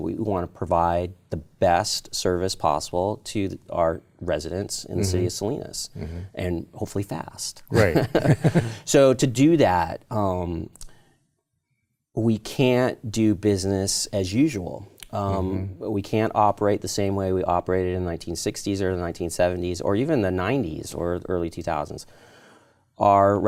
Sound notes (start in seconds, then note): 7.7 laughs